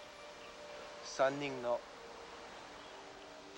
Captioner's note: speaking foreign language